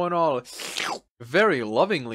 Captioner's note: slurp Noise